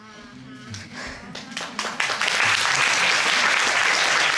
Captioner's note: audience applauding